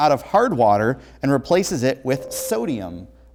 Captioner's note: ringing